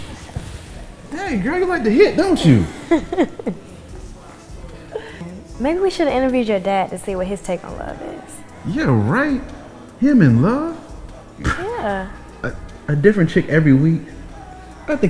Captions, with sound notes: Hey girl, you like to hit, don't you? (woman laughing) - Maybe we should've interviewed your dad to see what his take on love is. - Yeah right, him and love. - Yeah. - A different chick every week.